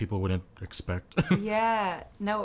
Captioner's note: laughing